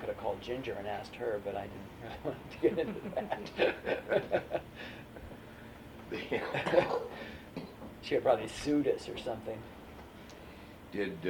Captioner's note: laughter